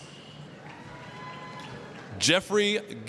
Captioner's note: applause, cheering